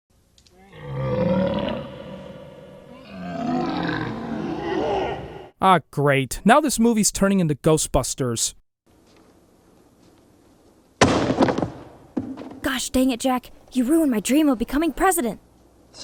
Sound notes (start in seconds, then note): 0.6 growling sound; 8.9 silence; 11.0 books slam on table